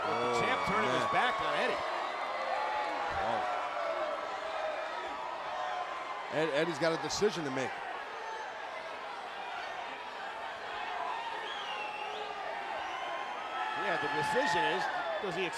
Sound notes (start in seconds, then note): 3.2 crowd vocalizing; 9.6 crowd vocalizing